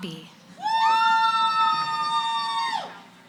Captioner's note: cheering